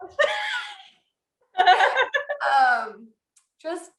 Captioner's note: laughter